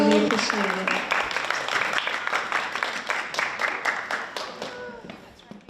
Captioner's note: attendees applauding